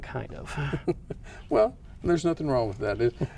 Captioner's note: laughs